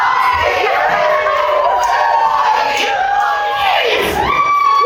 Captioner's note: still chanting; more chanting; whooping and cheers into applause